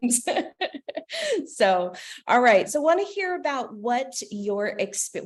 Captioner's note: laughter